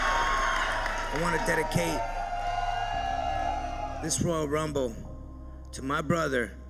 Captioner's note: applause